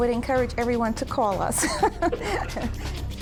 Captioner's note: laughs